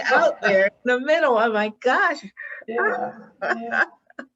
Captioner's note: laughs